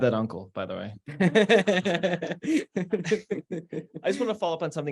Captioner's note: laughter